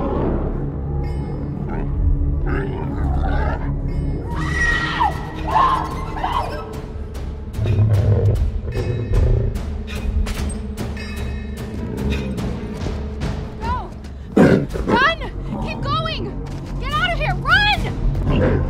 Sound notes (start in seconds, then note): 4.3 screaming